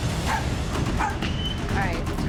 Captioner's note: dog barks